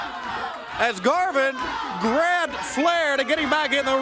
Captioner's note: crowd cheering